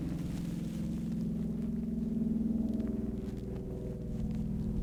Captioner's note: distant motor whirring